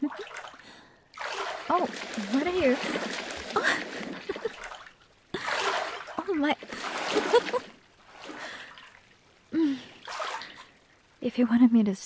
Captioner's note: chuckles; splash, chuckles; laughter